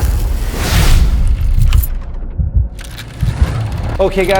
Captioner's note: swoosh sound